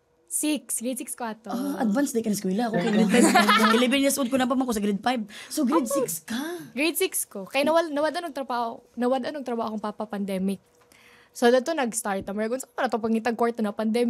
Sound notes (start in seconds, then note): 2.8 laughs